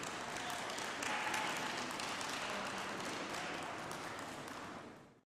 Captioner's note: applause